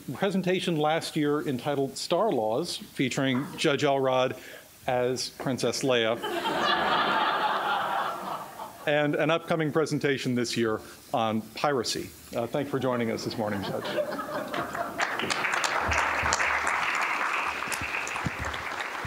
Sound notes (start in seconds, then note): 6.2 laughter